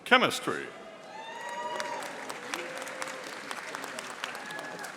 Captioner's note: audience applauding